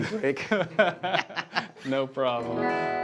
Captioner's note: laughing